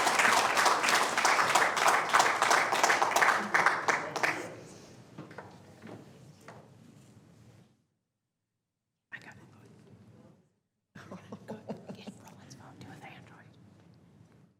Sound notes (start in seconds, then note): 9.4 applause